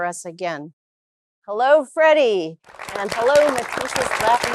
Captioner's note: applause